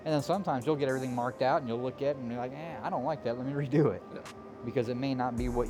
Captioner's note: none